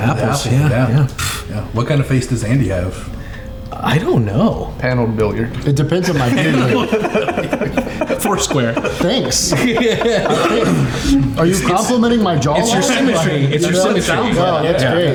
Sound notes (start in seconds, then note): 6.0 everyone laughing; 9.6 laughing